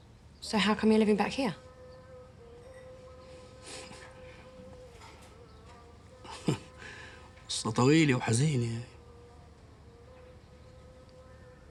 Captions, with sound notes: So how come you're living back here? (SCOFFS) (SPEAKS ARABIC)